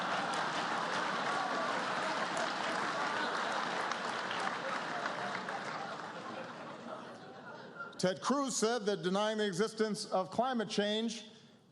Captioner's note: laughter, applause